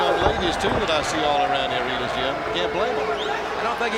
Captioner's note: blows thudding